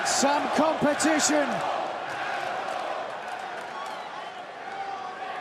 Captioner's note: crowd cheering